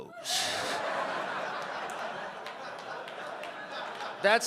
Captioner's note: audience laughing